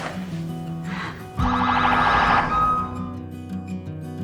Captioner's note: police sirens